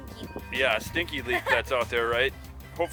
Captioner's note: laughs